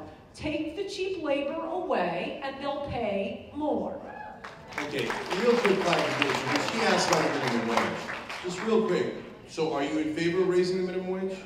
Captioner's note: applause